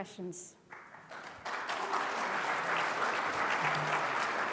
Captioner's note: audience applauding